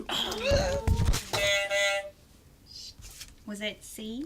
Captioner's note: buzzer